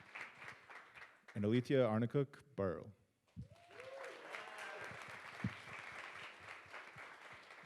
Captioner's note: audience applauds